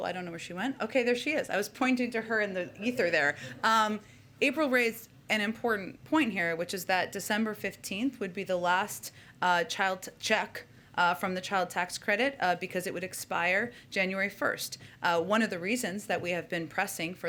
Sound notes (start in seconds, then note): 2.7 laughter